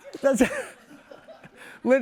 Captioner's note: laughter